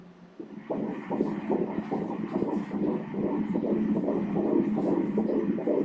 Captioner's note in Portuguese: batimentos cardíacos